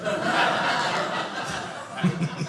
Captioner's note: audience laughing